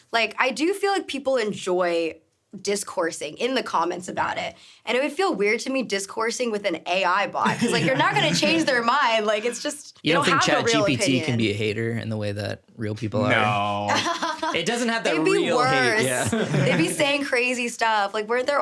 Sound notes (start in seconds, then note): 7.4 laughs; 13.8 laughing; 16.1 everyone chuckling